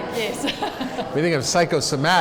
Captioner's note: laughs